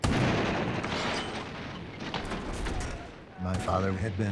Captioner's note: artillery fires